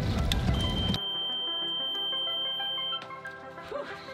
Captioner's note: boat beeping